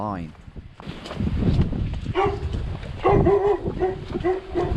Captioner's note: dog barking